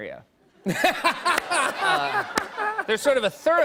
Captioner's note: laughter